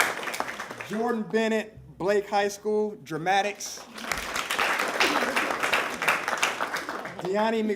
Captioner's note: applause